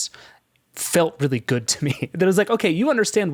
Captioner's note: chuckles